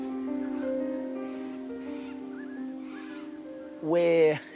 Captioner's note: cockatoos squawk